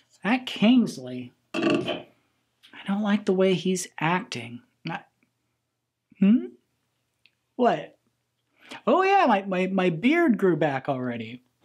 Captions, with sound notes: That Kingsley. (can clanks) I don't like the way he's acting. Not--hmm? What? Oh yeah, my beard grew back already.